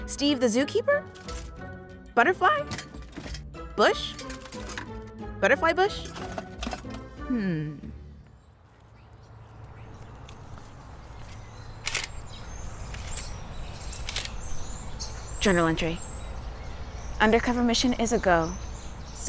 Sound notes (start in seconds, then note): 11.9 birds chirping; 11.9 camera clicking